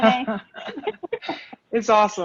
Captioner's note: all laughing